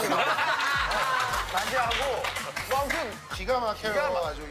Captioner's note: hahaha